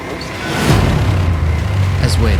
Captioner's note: car engine roaring